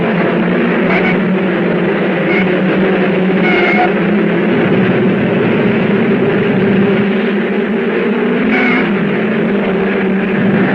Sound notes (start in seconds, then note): 0.5 tires squealing; 5.8 cars thrumming